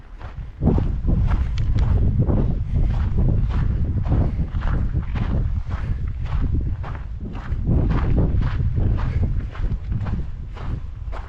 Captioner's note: wind blowing